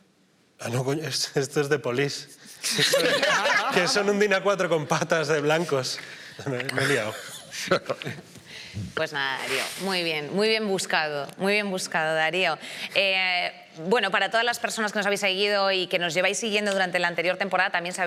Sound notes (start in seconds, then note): 2.7 laughs